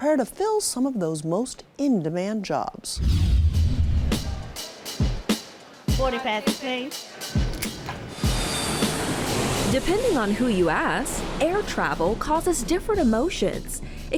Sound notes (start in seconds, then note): 3.0 screen whooshing; 3.1 upbeat music